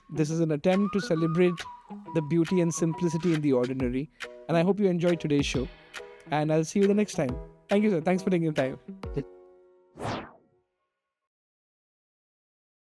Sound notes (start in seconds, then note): 10.0 air whooshes